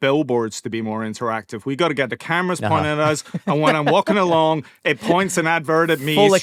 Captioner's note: laughter